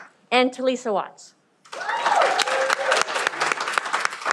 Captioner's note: cheering